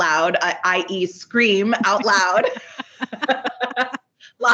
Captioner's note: laughs